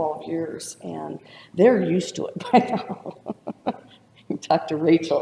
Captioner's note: laughs